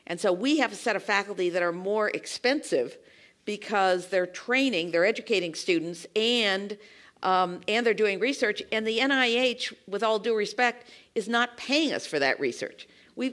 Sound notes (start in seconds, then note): none